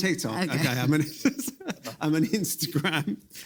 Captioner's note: laughs